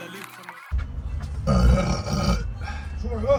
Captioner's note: burp